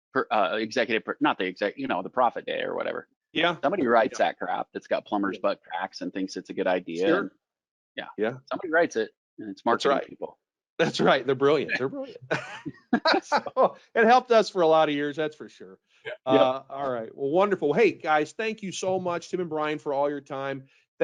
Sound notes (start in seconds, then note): 10.8 laughing